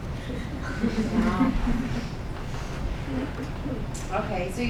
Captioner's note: laughing